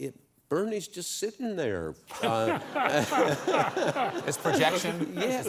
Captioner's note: laughter